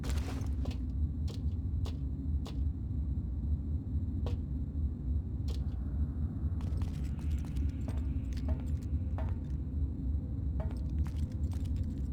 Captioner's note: footsteps